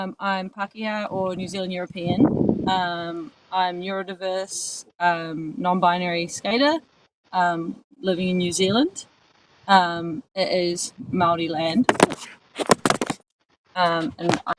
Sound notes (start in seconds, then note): none